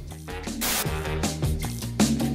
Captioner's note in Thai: เสียงโทรทัศน์